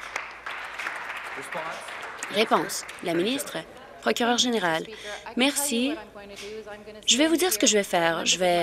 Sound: applause

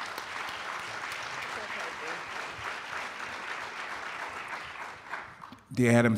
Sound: applauding

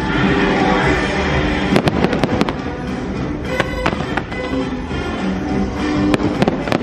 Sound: upbeat music; fireworks popping

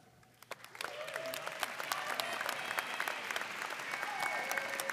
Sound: audience applauding

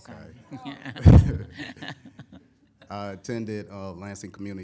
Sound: chuckling

